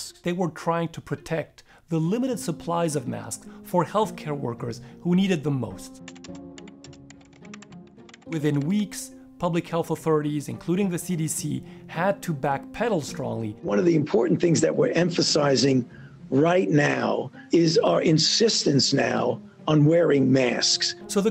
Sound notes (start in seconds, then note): 5.9 keystrokes